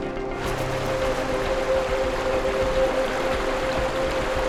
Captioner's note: water rushing